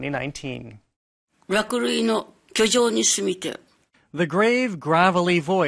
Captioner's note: speaking Japanese